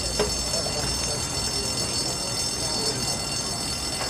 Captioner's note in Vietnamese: tiếng xì xầm